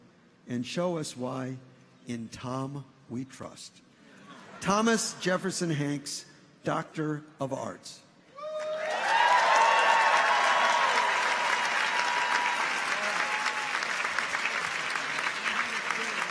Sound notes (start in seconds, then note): 8.4 audience cheers; 8.5 audience applauds